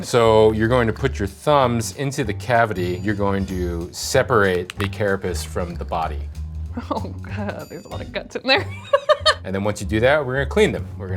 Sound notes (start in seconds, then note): 8.6 laughs